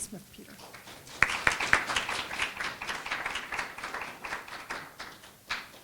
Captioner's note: applause